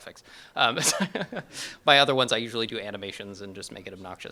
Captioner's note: chuckles